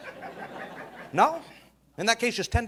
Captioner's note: audience laughing